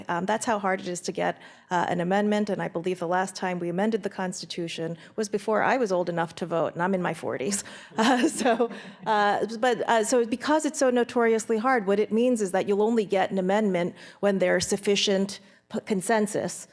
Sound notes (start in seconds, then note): 7.9 laughs